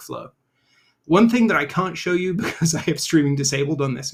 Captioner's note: chuckles